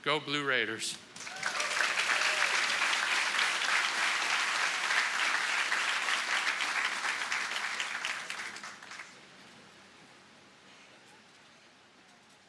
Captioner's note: applause